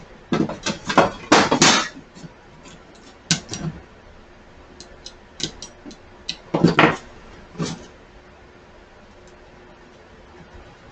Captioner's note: click